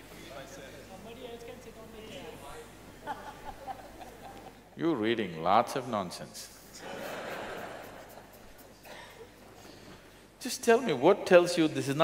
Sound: laughter

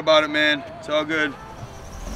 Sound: people screaming

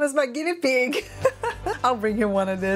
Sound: laughs

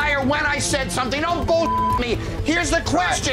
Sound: beeping

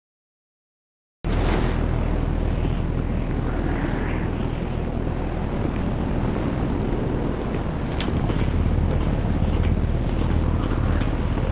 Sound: wind swaying

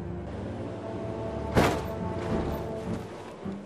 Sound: thuds

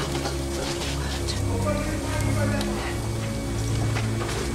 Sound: men shout in distance

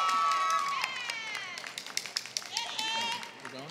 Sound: applause

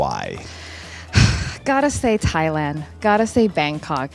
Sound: sighs

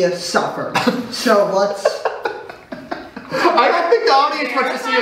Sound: laughs

